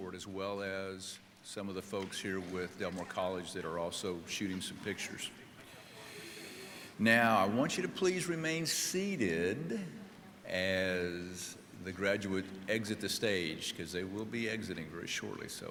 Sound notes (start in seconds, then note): none